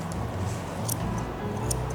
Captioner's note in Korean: 가위질 소리